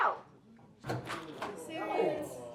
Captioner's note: door clicks and creaks